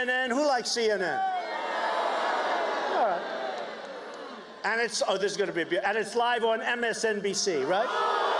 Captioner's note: cheers and applause